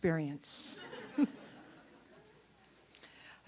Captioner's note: chuckle